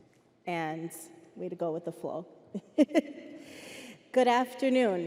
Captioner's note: laughs